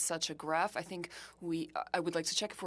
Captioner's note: speaking French